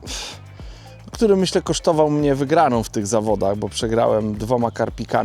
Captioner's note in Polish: parsknięcie